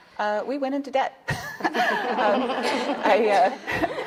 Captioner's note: audience laughing